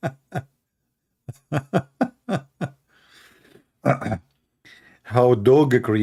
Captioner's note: Ketawa